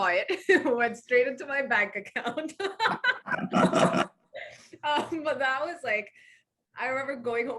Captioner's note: laughs